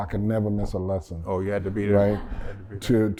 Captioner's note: laughter